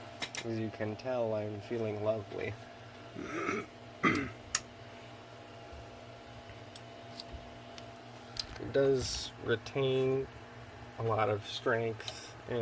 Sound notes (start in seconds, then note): 0.3 sarcastically; 4.0 clears throat